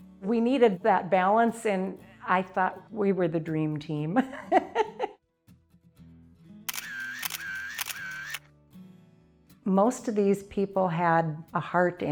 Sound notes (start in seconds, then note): 4.1 laughs; 6.7 camera shutter clicks